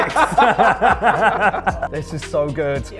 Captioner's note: laughter